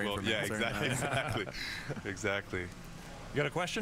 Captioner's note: laughter